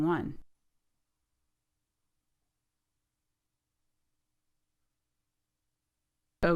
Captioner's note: silence